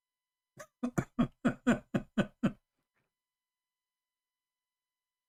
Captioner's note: Ketawa